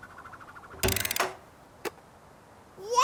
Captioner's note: box whirs